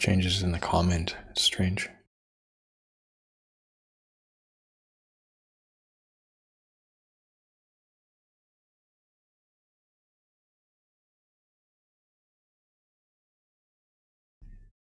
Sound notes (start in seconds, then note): 2.3 silence